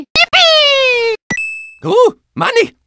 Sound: ding

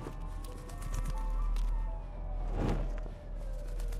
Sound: birds flapping

